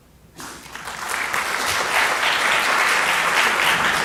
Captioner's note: applause